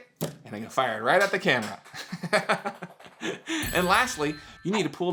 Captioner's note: laughs